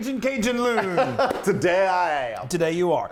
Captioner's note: laugh